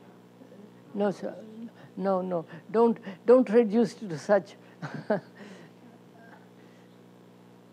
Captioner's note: laughs